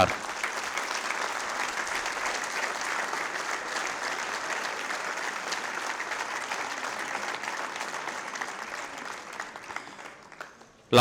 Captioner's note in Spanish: aplausos